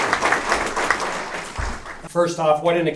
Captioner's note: applause